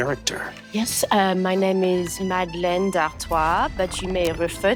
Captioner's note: in a French accent